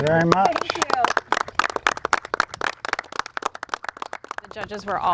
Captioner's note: everyone applauding